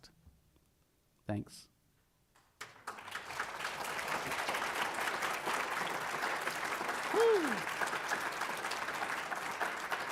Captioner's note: applause